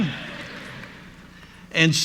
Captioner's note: audience laughs